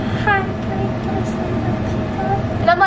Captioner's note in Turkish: sessizce